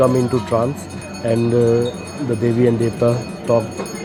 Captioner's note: bells jingling